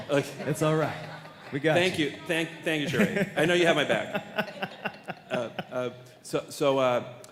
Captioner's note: laughter